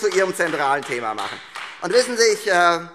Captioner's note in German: Beifall